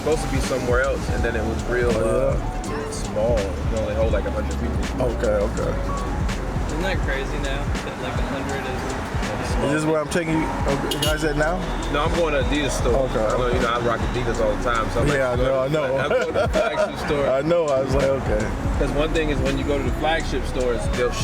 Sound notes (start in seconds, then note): 15.7 laughs